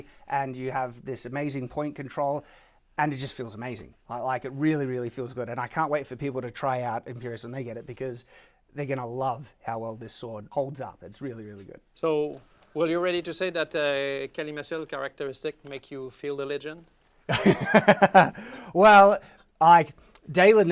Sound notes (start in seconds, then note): 17.3 laughs